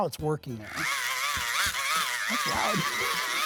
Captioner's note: motor revving